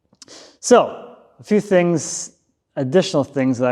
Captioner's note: none